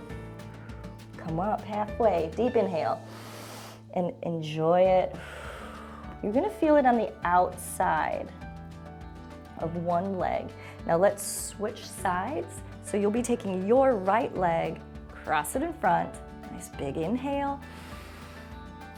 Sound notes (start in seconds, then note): 3.0 exhales; 3.0 inhales; 17.6 inhales